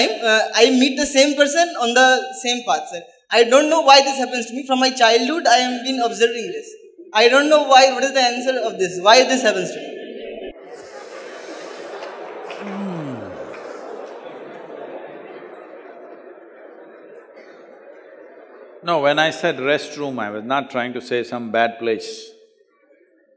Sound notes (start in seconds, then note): 16.4 laughter